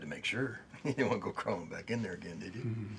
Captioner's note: chuckles